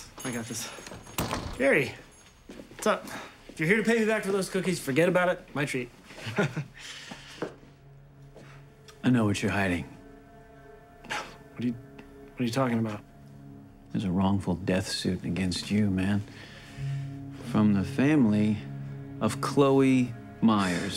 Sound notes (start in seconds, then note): 1.0 door closes; 6.2 chuckles; 10.4 scoffs